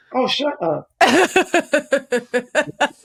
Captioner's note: laughs